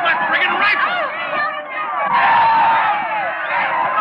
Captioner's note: yelling